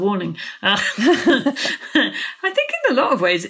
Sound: both laughing

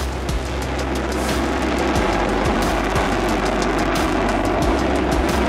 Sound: B-1 Lancer blaring

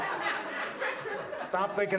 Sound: audience laughs

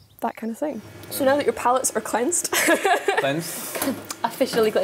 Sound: laughs

